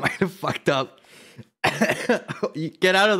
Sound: laughing; laughing and coughing

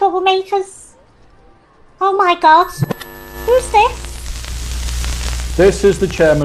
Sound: TV static

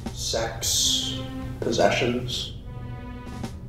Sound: none

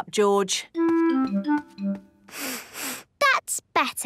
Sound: sniffs

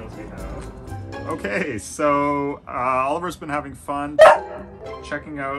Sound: bark

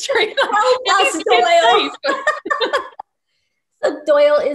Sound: laughing

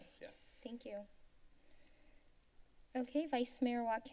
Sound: silence

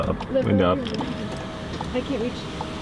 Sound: window buzzing

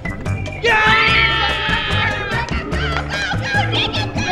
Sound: cheering

